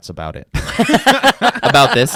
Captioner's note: laughs